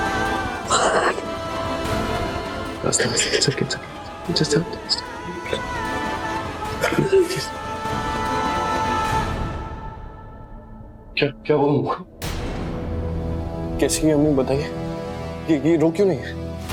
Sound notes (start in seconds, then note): 0.7 gasping; 6.7 Aastha sobbing